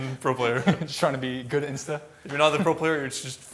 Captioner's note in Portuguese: risos